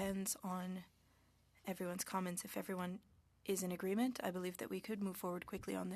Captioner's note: speaking French